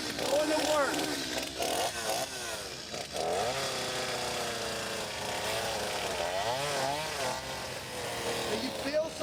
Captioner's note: chainsaw grinding